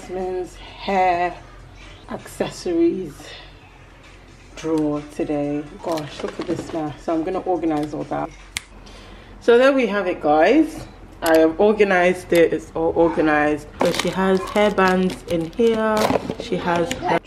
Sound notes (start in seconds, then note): 8.5 Thanos snap